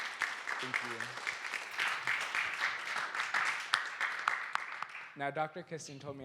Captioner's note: applause